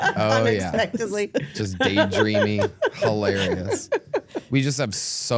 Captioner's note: laughs